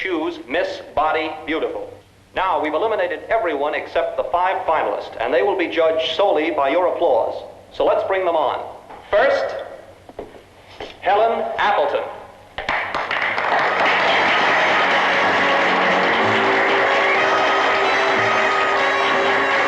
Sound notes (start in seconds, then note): 12.6 applause; 13.8 swanky jazz music